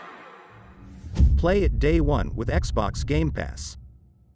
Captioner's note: dramatic sound